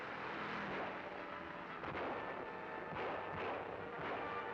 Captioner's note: gun bangs